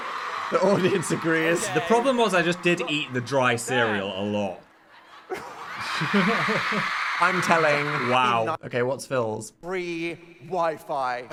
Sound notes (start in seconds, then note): 0.0 audience cheering; 5.3 chuckling